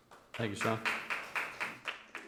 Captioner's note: members clap